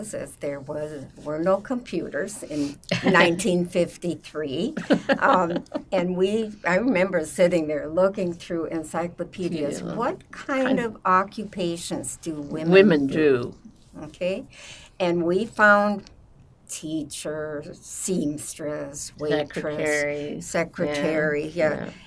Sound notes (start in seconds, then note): 4.8 laughing